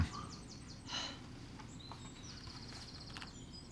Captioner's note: sighs